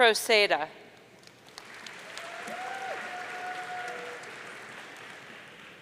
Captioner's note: audience cheering